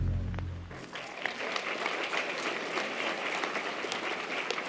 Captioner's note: audience applause